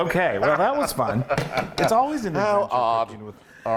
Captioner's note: laugh